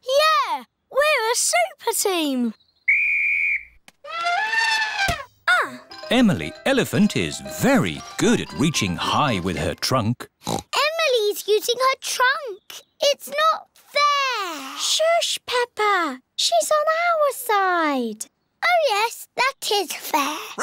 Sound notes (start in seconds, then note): 2.8 blows whistle; 4.1 trumpets; 10.4 oinks